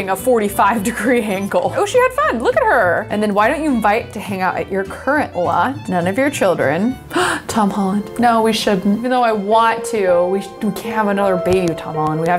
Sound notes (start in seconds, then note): 7.0 gasps